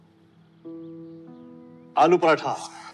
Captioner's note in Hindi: none